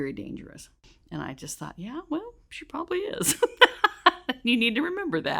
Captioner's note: laughs